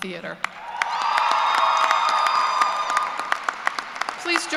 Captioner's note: cheers and applause